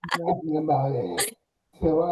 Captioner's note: people laughing